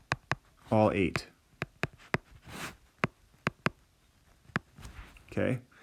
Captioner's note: tapping sound